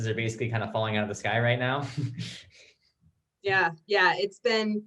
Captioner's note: chuckles